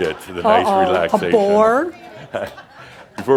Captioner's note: more chuckles